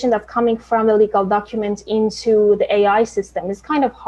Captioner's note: none